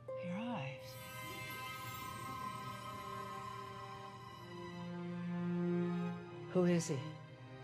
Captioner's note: music intensifies; water bubbling